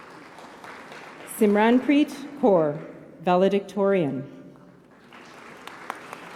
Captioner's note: applause